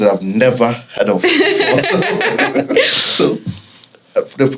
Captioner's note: laughs